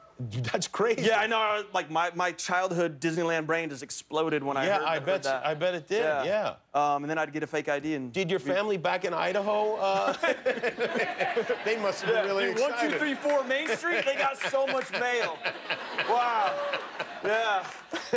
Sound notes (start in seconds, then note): 10.4 laughter; 17.7 laughter